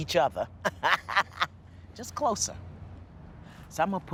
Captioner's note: laughs